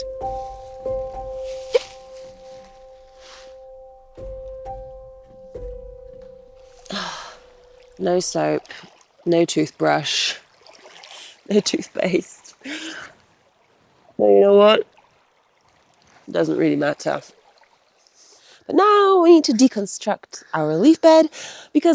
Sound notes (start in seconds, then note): 0.0 leaves rustling; 0.0 bright music; 6.8 sighs; 6.9 water trickles; 12.1 chuckles